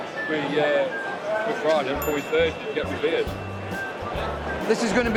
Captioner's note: tick pinging